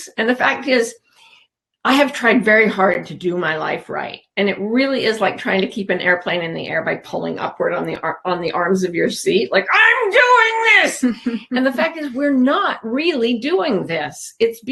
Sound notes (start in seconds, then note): 11.0 chuckles